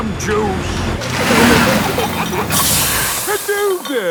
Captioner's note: air hisses; peppa and george giggling